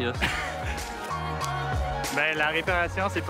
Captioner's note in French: rire